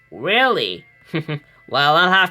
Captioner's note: Hades chuckles